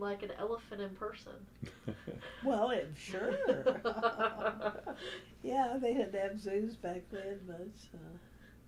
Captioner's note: laughter